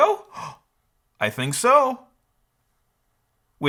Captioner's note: gasps